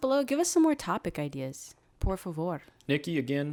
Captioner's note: speaks in foreign language